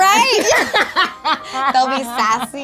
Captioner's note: both laughing